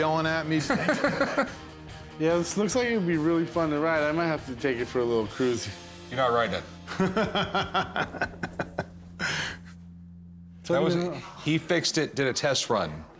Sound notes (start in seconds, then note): 0.6 laughter; 6.9 laughs